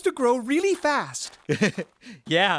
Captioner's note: chuckle